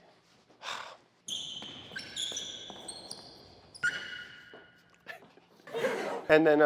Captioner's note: sighs; shoes squeak loudly; audience laugh track plays